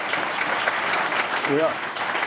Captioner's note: applause